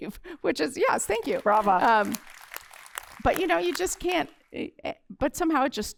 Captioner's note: applause